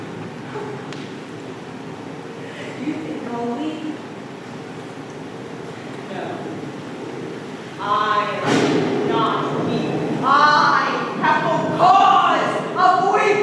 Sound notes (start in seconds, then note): 8.3 thunder crashes